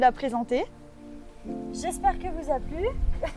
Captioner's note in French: rire